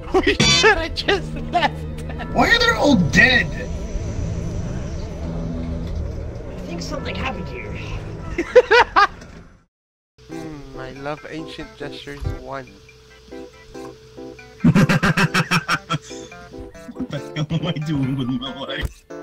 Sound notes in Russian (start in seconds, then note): 6.8 Саркастично